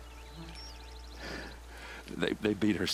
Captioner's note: sigh